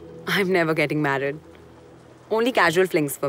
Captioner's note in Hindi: none